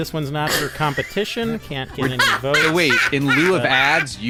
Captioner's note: laughter